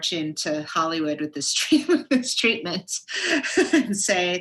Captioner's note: laughs